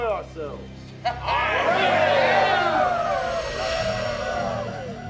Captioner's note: gang cheering